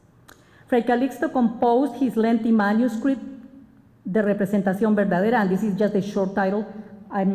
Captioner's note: spanish